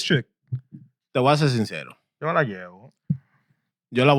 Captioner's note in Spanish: Hablando en idioma extranjero